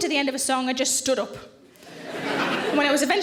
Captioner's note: audience laughs